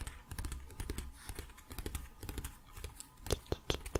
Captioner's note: tapping on pages